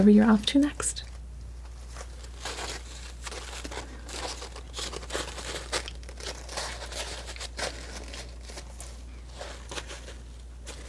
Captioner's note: scratching